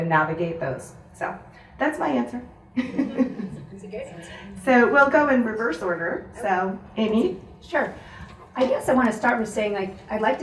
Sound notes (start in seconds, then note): 2.8 audience laughs